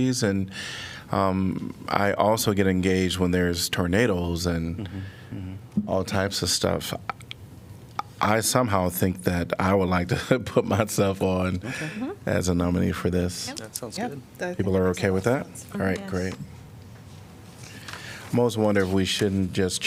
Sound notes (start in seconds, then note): 9.8 laughter